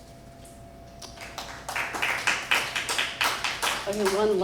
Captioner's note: applause